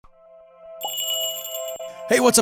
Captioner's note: magical jingle